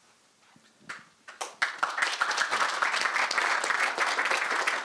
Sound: applause

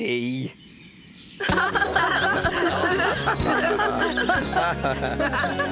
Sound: laughing

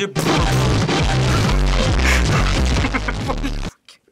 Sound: blaring; vocalizes along; cracking up

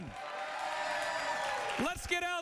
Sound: cheers

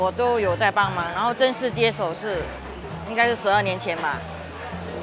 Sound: in mandarin

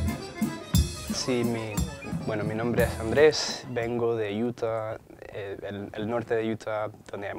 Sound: cadet introducing himself in Spanish

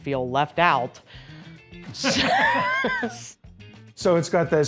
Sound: laughter

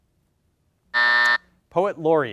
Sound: buzzer sounds

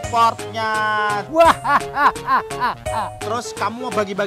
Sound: evil laugh

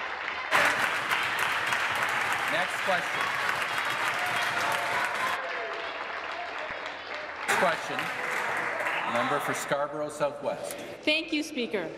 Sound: applause

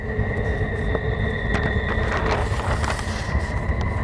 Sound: loud squeaking sound

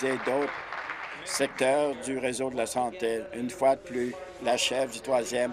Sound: applause

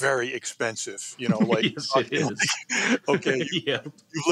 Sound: laughs

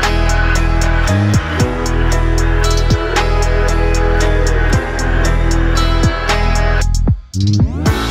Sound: oooo

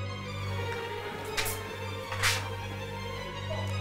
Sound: suspenseful music; sounds of blood spraying; suspenseful music

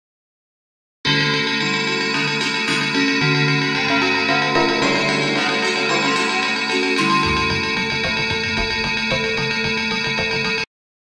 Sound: sound of drumbells

